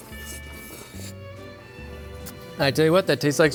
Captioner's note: slurping